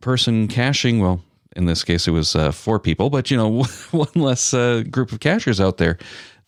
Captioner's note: chuckle